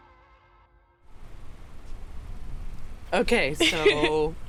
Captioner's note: traffic faintly whizzing; laughing